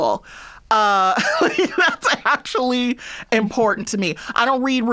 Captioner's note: laughter